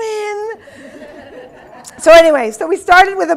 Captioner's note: audience laughing